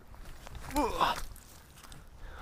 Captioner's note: grunts